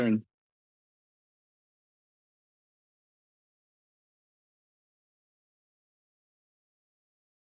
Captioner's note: silence